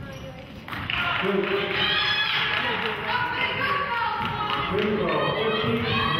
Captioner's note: clapping